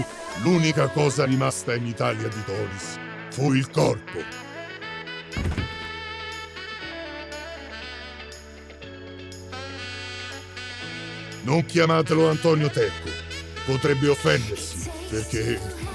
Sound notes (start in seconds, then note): 5.3 body falling; 5.4 pop, playful music continues